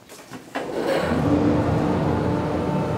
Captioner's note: loud machine hum